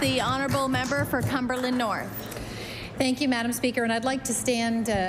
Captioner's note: applause